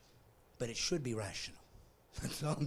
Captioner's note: laughing